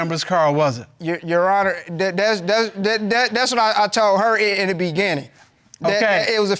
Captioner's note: stammering